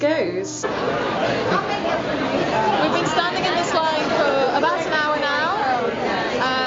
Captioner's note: crowd noise